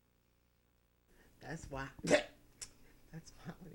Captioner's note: cough